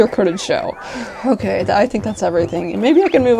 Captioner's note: phew